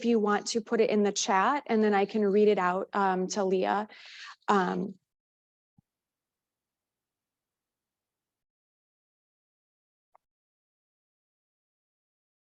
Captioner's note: silence